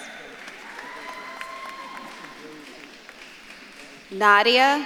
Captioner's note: audience claps and cheers